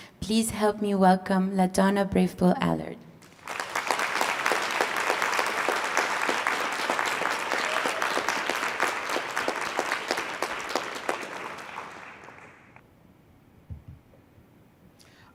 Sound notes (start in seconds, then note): 3.7 applause